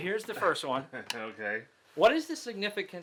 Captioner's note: laughs